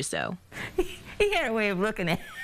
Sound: laughter/chuckle

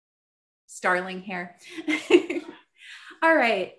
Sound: laughs

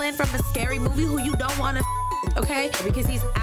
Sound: beep

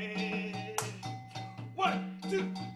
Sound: clapping

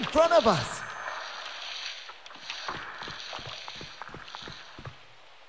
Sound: monster slithering

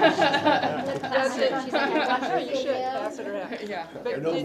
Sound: laugh

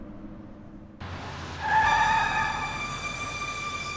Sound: tires screech; dramatic instrumental music

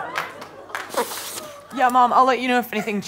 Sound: blows

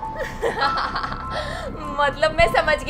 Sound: laughs

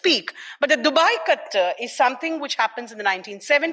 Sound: speaks in foreign language

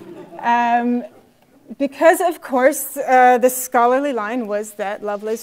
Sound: laugh

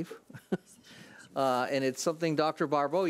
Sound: laughs

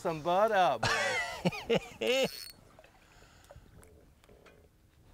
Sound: loud laughing

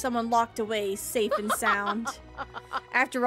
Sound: Mother Gothel Laughs

